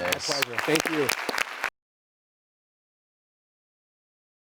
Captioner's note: applause